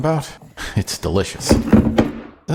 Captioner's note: heavy Cast Iron Hitting Table